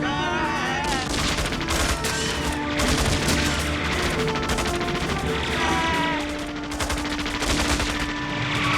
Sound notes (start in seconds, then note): 3.8 machine gun fire